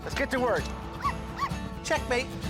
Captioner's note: dogs barking